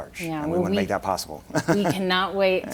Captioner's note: laughing